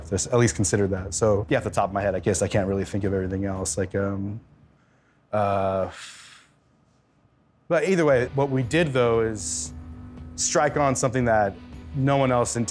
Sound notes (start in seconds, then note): 4.7 exhale